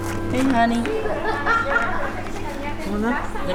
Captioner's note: laughter